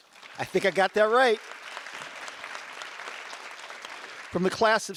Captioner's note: audience applause